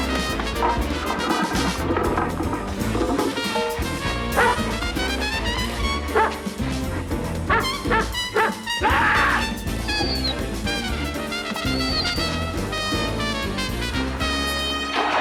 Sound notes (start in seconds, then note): 4.2 dog barking; 8.8 roars; 9.8 dog whimpers